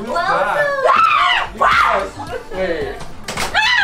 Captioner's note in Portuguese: Gritos